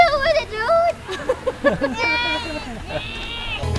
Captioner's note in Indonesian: Ketawa